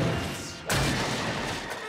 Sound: smashing

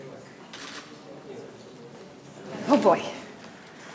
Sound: camera shutter clicks

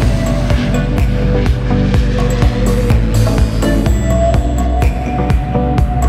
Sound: sound of Pilatus PC-12 for sale taking off

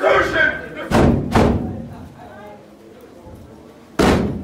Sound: banging on doors

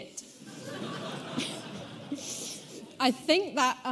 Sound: audience laughing

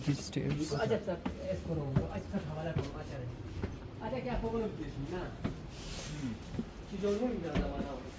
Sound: local language

